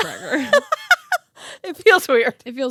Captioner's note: laughing